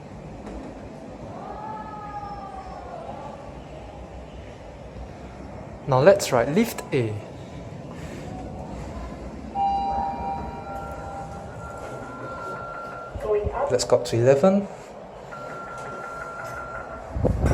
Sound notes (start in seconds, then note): 9.6 chime